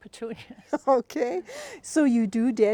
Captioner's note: laughing